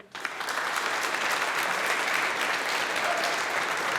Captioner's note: audience applauding